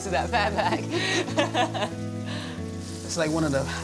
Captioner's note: laughs